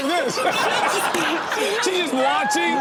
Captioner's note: crowd laughs